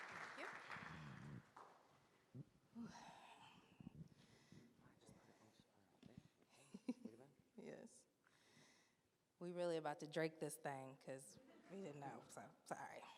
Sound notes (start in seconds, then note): 6.8 faintly speaks